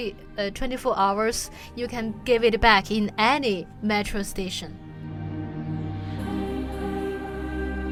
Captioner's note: voiceover